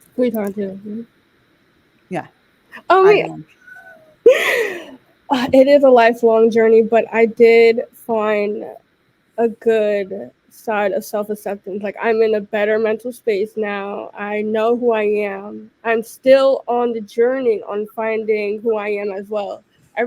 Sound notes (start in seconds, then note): 3.6 laughing